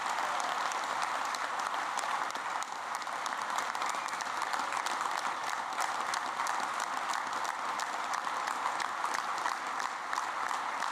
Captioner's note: applause